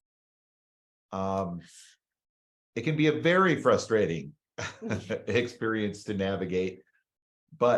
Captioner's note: chuckles